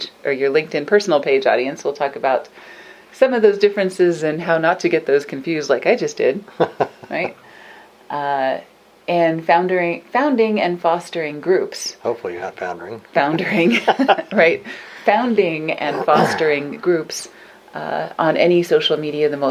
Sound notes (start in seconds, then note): 6.6 laughs; 13.7 both laugh